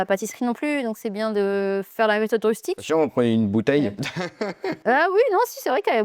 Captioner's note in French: rires